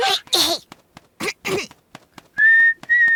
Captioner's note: clears throat; chirping